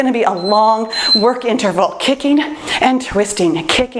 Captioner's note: timer beeps